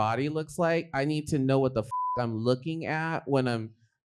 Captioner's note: beep; beep